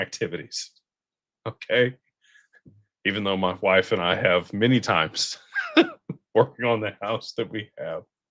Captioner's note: laughter